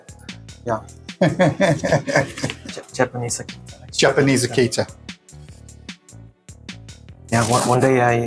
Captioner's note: laughs